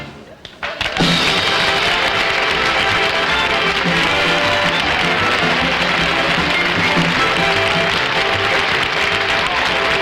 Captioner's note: audience Applauding